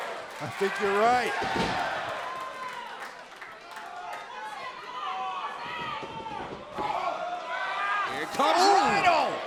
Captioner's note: crowd cheering